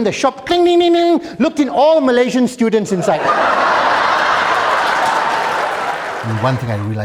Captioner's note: laughter